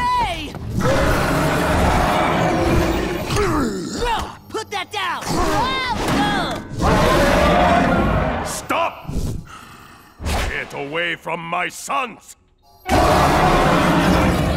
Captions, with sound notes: [roaring] No! Put that down! Whoa! [grunting] [roaring] Stop! Get away from my sons! [roaring]